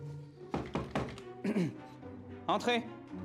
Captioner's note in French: toc-toc; raclement de gorge